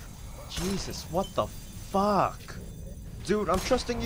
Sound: gunshot; gunfire, zombie snarls

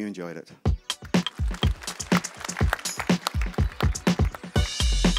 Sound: applause

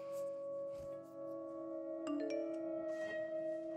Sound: phone chimes

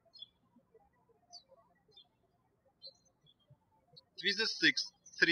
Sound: birds chirping

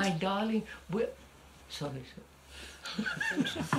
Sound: laughs

